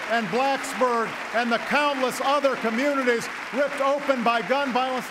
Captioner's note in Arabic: تصفيق